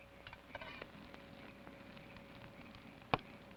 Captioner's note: fire crackles